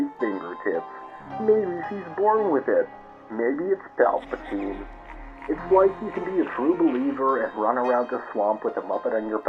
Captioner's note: distant evil laughter